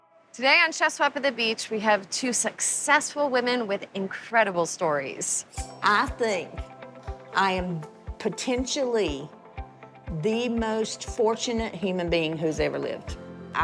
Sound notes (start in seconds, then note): none